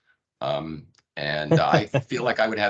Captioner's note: laughing